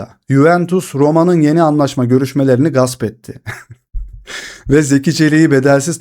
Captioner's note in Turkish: kahkaha